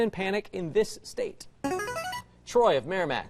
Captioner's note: buzzer